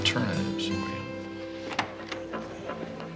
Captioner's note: door opens